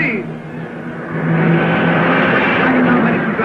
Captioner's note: cars revving